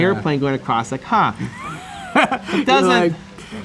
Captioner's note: laughs